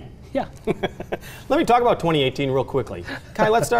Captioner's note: laughs